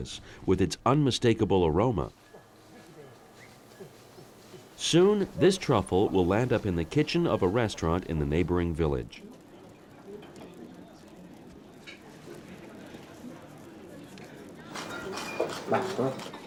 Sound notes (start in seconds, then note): 9.2 distant chattering; 15.5 speaking Italian